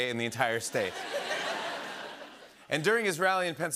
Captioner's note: laughter